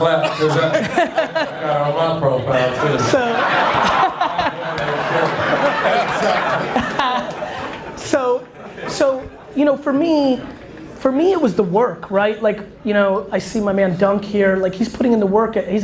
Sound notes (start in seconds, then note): 0.2 laughs; 3.1 audience laughs